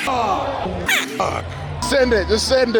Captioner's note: beep